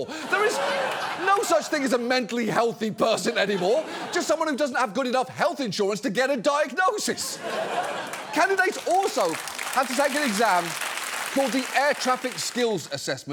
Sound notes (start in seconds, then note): 0.0 studio audience laughs; 7.3 studio audience laughs, applauds